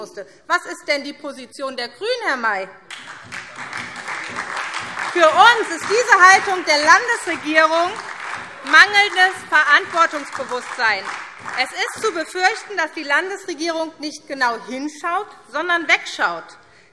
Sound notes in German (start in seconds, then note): 2.7 Beifall SPD und DIE LINKE